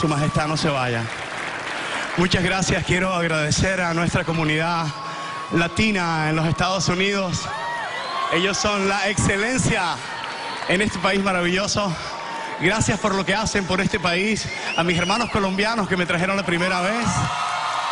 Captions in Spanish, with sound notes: [APLAUSOS] SU MAJESTAD, NO SE VAYA. MUCHAS GRACIAS. QUIERO AGRADECER A NUESTRA COMUNIDAD LATINA EN LOS ESTADOS UNIDOS. ELLOS SON LA EXCELENCIA EN ESTE PÍS MARAVILLOSO.